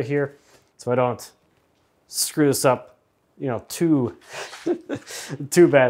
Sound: chuckles

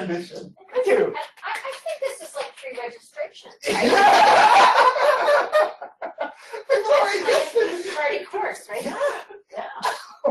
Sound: laughter

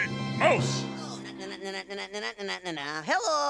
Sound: Rizzo humming "Mickey Mouse March"

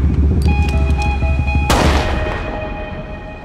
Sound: gunshot

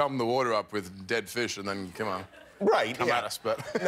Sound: laughter

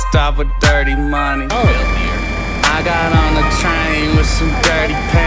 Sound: indistinct chatter

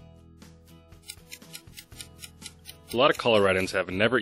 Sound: clock ticking

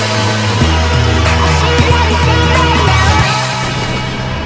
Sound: woo

